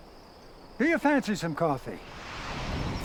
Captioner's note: birds chirping